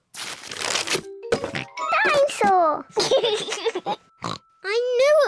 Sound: oinks; laughs; oinks

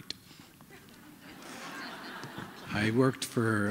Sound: laughter

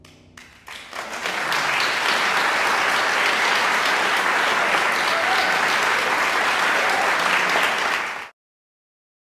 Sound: applause

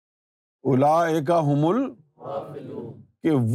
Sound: audience replies

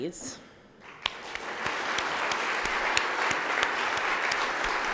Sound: audience applauding

